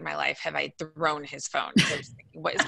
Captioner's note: laughing